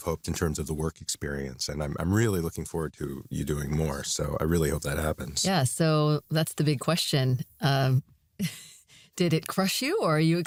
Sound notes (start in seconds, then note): 8.4 chuckles